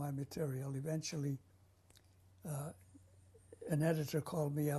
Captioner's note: pauses for 3 seconds